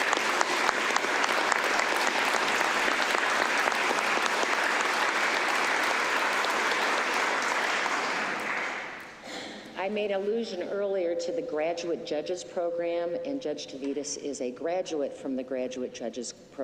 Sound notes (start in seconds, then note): 9.1 applause